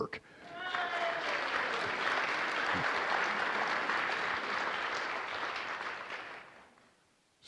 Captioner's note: applause